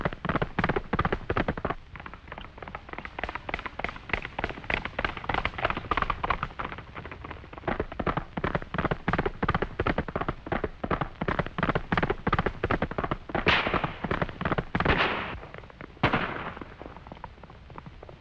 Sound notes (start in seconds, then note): 13.3 gunshots